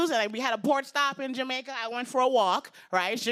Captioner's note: none